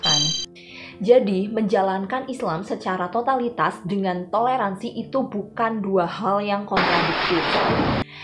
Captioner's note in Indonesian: suara petir